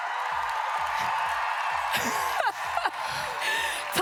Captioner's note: applause